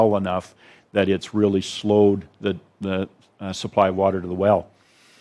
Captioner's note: none